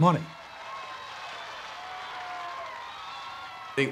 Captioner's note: crowd cheering